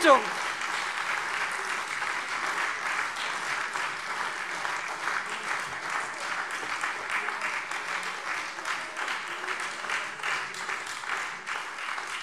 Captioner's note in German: Lebhafter Beifall SPD, Freie Demokraten und DIE LINKE